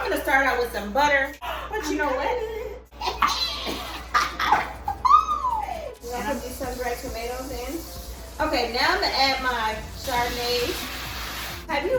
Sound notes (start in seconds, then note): 1.9 both laugh; 2.4 gasps